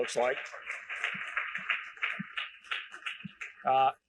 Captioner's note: applause